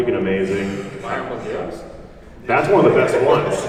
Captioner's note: laughs